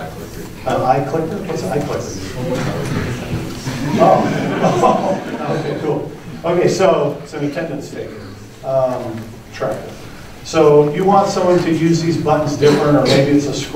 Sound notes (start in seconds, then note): 3.7 laughter